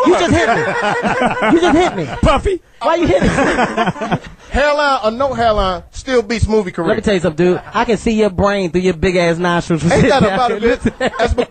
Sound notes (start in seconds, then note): 0.0 all laugh